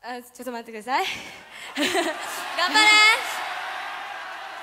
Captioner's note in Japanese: 笑い